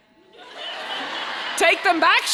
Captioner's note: audience laughing